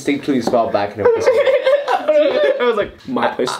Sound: laugh

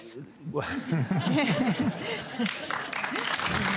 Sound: laughter; applause

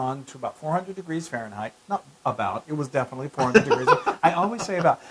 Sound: laugh

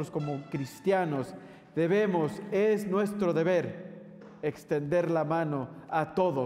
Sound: speaking in foreign language

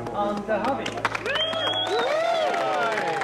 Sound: all cheering

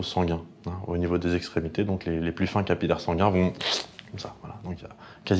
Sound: squish

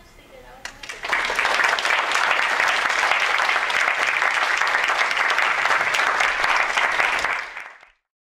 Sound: applause

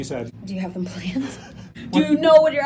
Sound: laughter

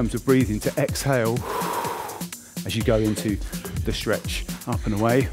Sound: exhaling loudly

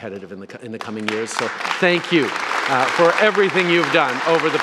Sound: applause

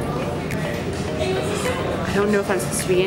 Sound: people talking

